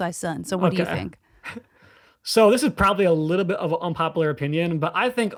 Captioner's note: chuckles